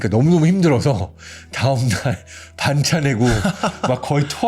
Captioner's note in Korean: 웃음